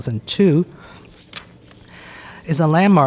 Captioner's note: paper rustles